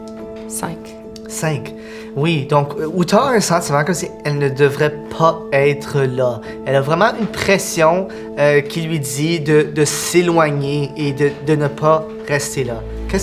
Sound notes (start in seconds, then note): none